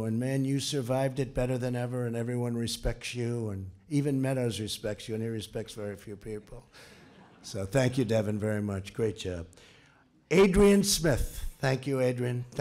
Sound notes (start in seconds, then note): 6.8 laughter